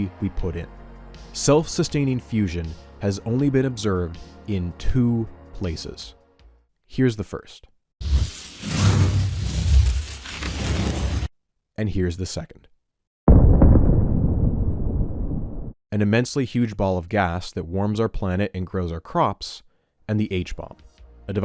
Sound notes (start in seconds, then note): 9.6 flame sounds; 15.8 thermonuclear explosion